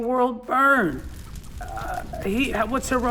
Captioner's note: fire blazing